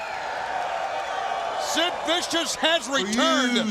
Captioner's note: crowd cheering